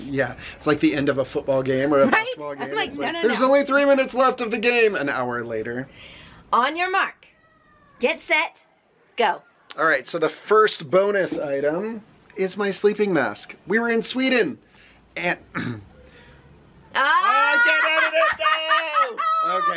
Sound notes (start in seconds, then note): 0.2 laughs; 15.5 clears throat; 17.0 laughing